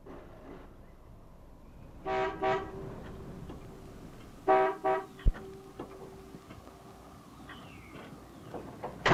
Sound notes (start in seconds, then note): 2.0 horn honks